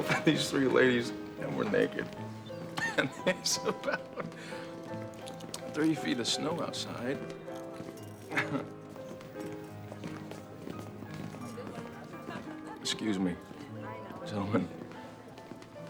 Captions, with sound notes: myself and these three ladies, and we're naked. and there's about three feet of snow outside. (chuckles) (piano playing softly) Excuse me, gentlemen.